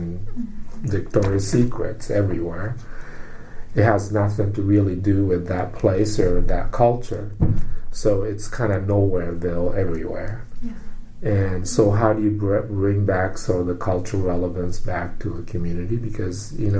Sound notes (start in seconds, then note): 10.3 whispers